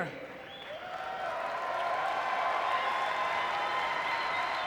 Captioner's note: audience cheering